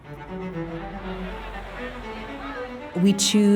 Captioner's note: intense music; people chattering